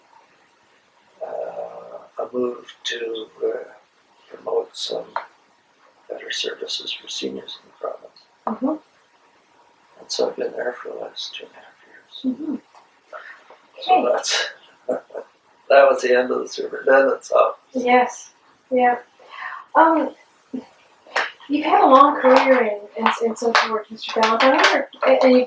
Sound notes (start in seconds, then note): 14.8 laughs